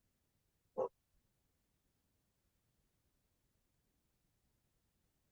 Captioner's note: long pause